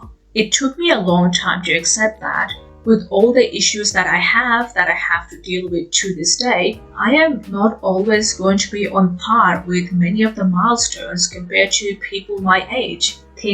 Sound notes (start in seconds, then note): none